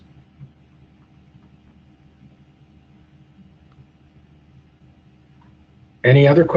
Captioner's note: pause